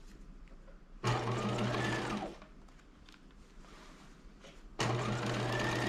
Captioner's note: sewing machine whirring